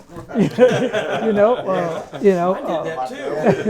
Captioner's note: all laughing